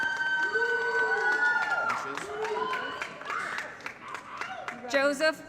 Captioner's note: applause & Cheering